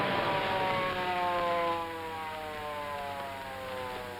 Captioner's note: siren wails